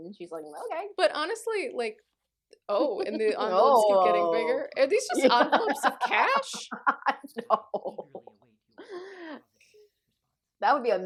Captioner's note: laughter